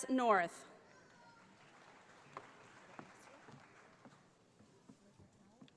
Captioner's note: audience applauding